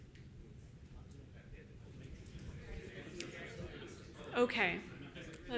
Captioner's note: participants chattering